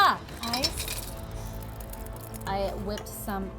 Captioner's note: glass clanging